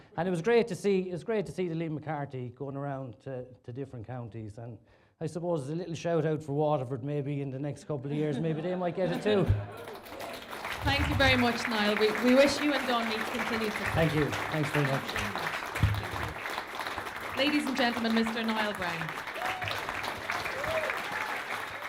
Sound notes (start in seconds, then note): 10.2 applause; 15.1 applause; 19.1 applause and cheering